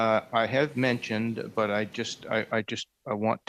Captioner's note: speaking French